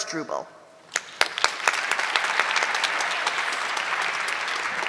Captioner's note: audience clapping